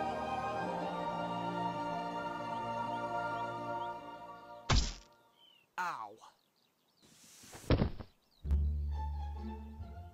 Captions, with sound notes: (THUD) -MR. WOODCOCK- Ow! (SNEAKY MUSIC)